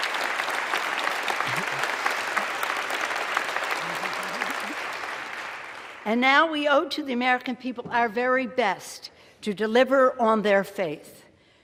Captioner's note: applause